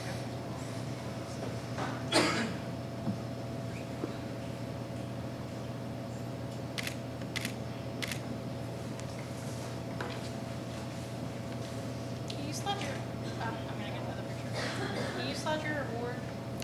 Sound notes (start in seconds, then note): 7.3 camera shutter clicking; 7.6 faintly speaking